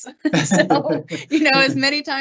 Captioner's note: laughing